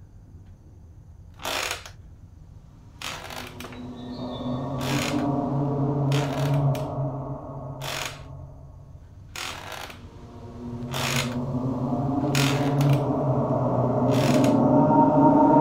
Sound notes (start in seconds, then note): 1.2 sound of rocking chair